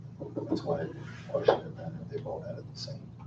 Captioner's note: drowned out by swishing